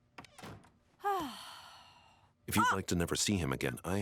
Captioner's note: heavy sighing